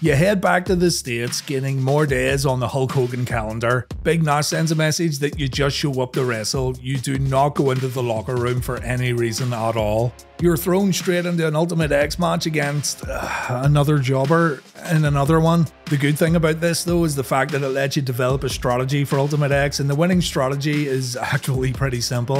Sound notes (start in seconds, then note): 13.1 sigh